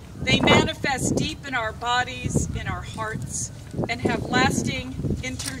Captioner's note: none